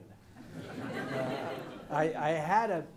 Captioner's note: audience laughs